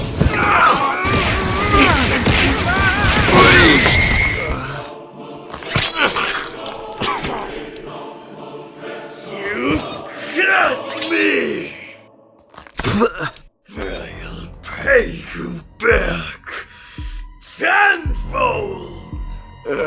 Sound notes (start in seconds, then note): 0.2 grunts and groans; 4.1 more groans; 19.6 groan